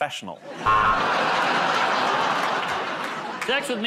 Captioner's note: buzzer